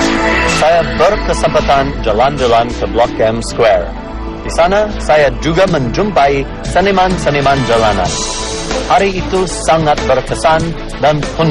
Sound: non-english speech

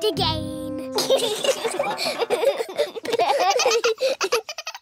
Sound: all giggling

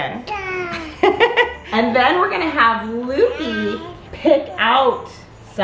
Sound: babbles; laughs

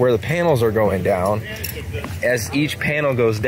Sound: people chattering

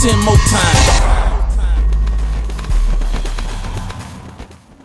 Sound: birds flap

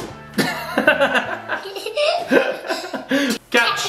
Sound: laughing

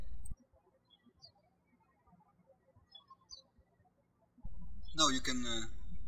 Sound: birds chirping

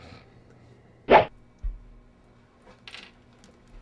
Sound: none

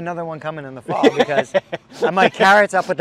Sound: laughing

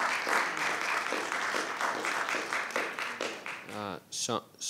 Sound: attendees applauding

